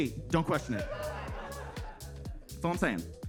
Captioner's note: upbeat music; attendees laughing